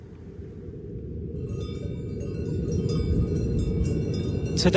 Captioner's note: wind blowing; wind chime ringing